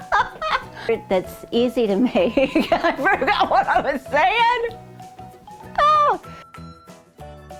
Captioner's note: laughing; laughing